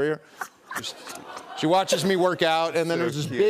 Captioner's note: laughs